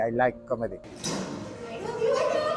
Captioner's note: door slam